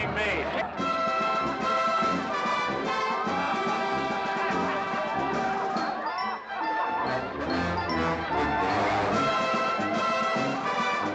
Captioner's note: amused crowd noises